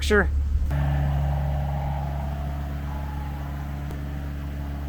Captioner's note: motor humming